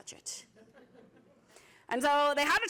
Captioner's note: laughter